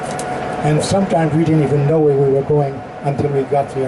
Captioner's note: none